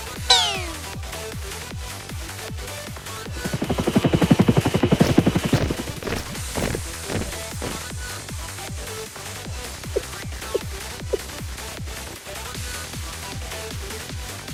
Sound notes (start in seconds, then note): 3.3 the whirring of helicopter blades